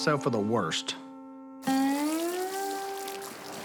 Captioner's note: water trickling